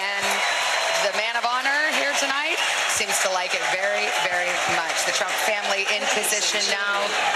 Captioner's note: cheers and applause